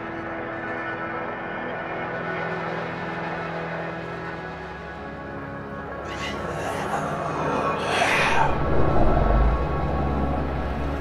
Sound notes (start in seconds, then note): 6.3 ghostly whispering